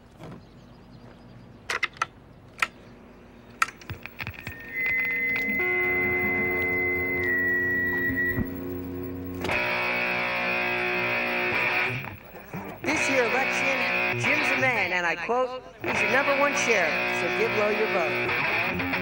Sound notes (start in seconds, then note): 4.7 high pitch noise; 9.3 bass sound; 18.7 electric guitar music